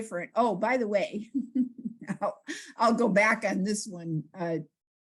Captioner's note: laughs